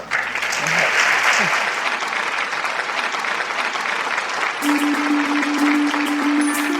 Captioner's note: applause